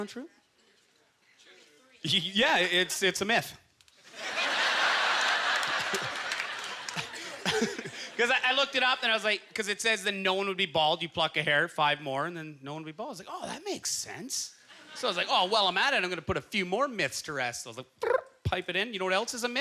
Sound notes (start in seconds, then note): 4.0 audience laughter; 4.1 chuckling